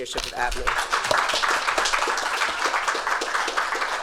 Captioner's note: audience clapping